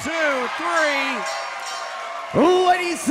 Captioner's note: bell rings